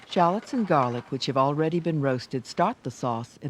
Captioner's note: voiceover